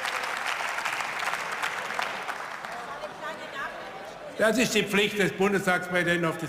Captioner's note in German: Zwischenrufe und Beifall